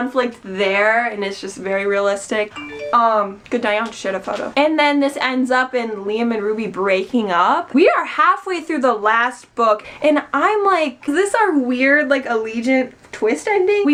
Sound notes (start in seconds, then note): 2.5 phone rings